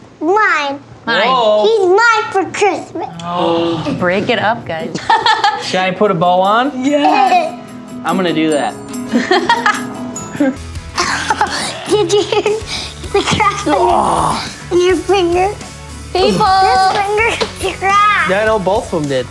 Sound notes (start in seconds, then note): 3.2 gasps; 4.8 laughs; 9.1 laughs